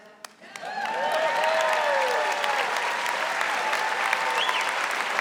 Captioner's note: audience applauding